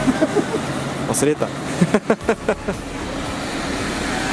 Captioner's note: laughs